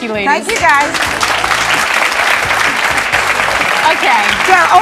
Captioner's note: audience clapping